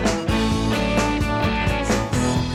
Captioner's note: beeping